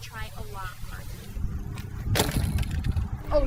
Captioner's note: bike hitting ground